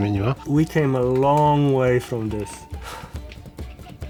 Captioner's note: in English